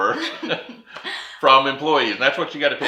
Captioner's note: laughs